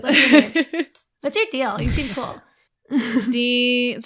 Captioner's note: laughter; laughs